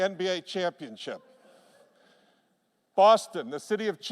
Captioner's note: laughter